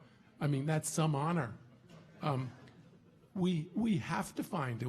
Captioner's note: audience laughing